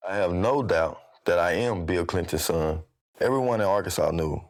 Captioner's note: none